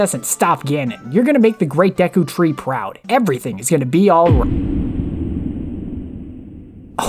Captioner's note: boom